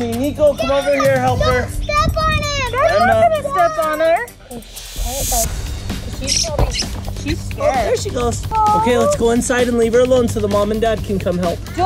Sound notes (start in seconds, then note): 5.9 suspenseful music; 6.2 baby bird chirping